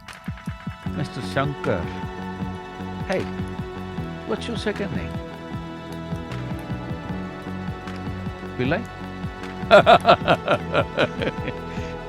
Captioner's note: laughs